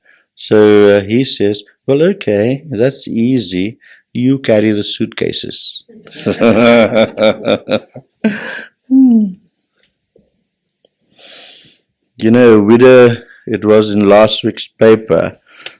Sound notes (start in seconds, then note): 8.4 laughs